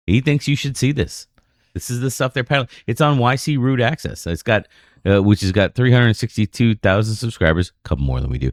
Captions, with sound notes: thinks you should see this. This is the stuff there. It's on Y .C. Root access. It's got [UH] which has got 362000 subscribers, couple more than do.